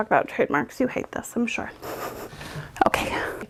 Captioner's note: chuckles